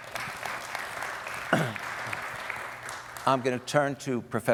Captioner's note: audience applauding